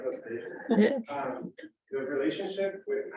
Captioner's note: chuckles